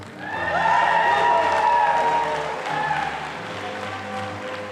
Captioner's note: audience applauding